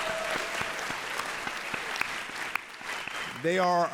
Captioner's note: audience applauds and cheers